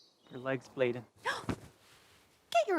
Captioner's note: gasps